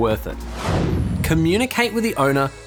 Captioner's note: air whooshing